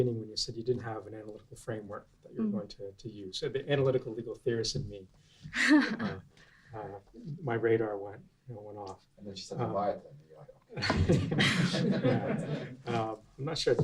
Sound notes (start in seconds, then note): 5.5 laughs; 10.8 class laughs